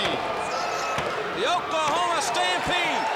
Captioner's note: crowd cheering